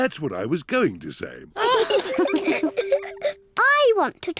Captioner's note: all giggle